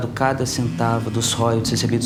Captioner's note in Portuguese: Celular vibrando